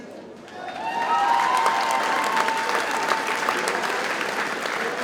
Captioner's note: audience cheers and applauds